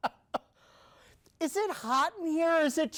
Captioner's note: reporter chuckling